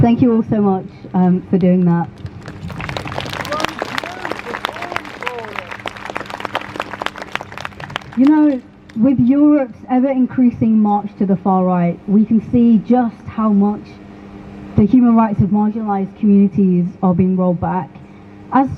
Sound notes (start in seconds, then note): 4.6 crowd Cheers